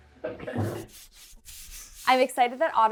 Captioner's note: chuckles; paint roller swishing